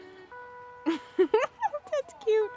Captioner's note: laughing